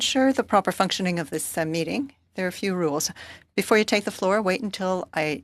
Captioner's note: speaking French